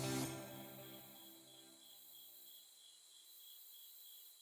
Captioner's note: crickets chirping